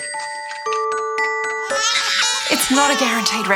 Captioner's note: baby crying